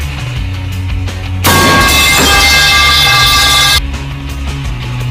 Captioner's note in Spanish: Fuerte sonido de la vara Teleport